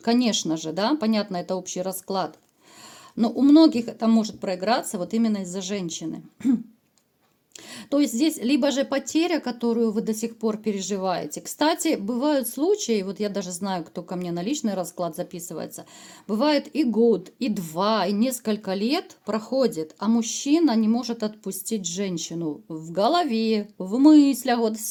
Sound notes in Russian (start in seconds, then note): 6.4 откашливается